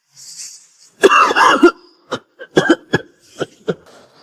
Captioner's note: cough, cough